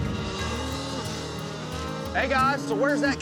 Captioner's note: mooing